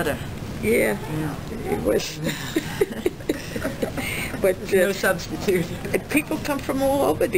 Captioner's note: both laugh